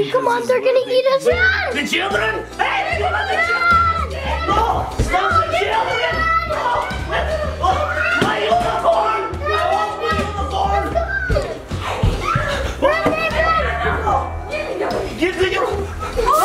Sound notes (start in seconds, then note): 7.2 Dracula dad panting; 10.8 footsteps pattering